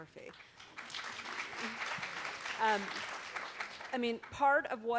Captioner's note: audience applauds